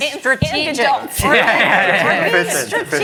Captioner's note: laughter